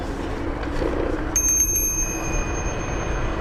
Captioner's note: bell ringing